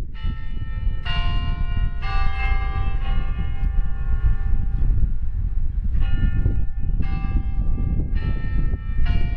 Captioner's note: Albritton Bell Tower tolls